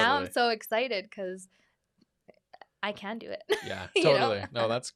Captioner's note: laughs